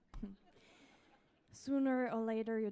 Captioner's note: audience laughs